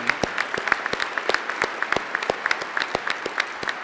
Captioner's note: applause